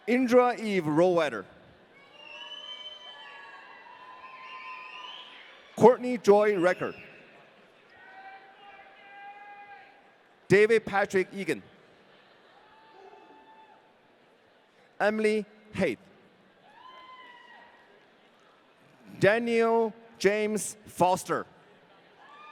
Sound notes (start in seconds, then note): 2.8 audience cheering; 16.8 audience cheering